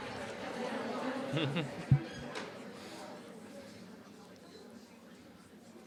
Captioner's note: audience noise; silence